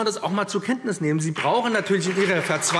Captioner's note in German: Beifall BÜNDNIS 90/DIE GRÜNEN und CDU